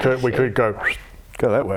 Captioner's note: whistles